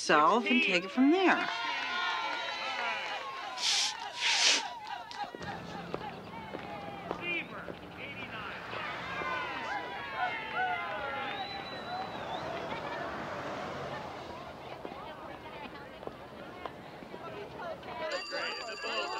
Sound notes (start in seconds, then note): 0.3 Sheila blowing; 5.8 women cheering; 14.7 people chattering; 14.7 phone ringing